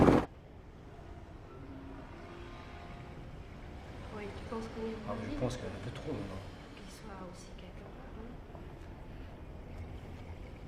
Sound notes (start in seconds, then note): 0.0 silence; 4.0 woman, man chattering in French